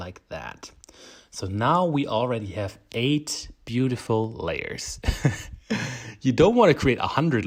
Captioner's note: laughs